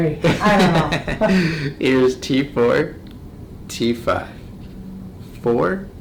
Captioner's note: laughs